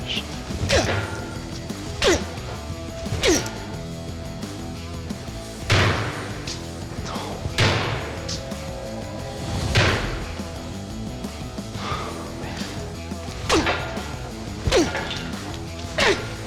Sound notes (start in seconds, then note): 0.0 grunting; 5.0 banging; 11.4 whispering; 13.0 grunting